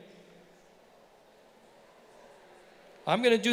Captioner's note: students mumbling